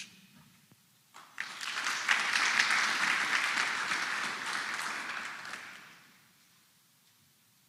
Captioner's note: applause